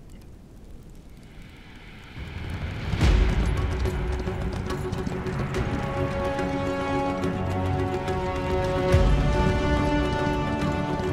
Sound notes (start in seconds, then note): 2.2 horse gallops; 3.0 threatening music